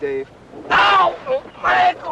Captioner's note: shouting